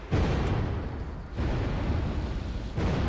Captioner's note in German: Es knallt dreimal; Explosion